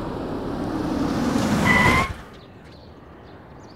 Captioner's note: Tires screeching